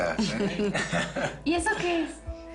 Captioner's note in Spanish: Risas